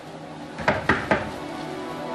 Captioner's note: knocks on door